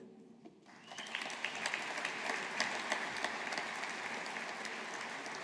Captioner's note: audience applauding